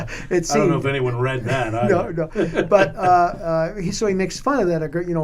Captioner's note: laughter